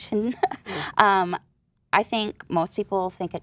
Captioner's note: laughing